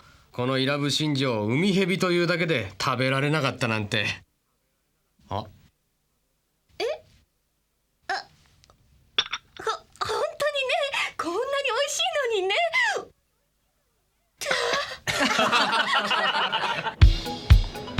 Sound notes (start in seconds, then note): 14.4 sigh; 15.0 laughter from everyone